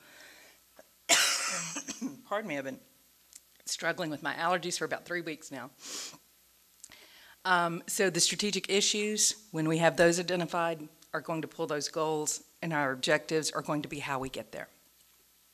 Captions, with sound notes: (coughs) Pardon me I've been struggling with my allergies for about three weeks now. So the strategic issues when we have those identified are going to pull those goals and our objectives are going to be how we get there.